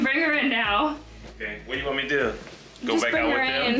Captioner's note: pops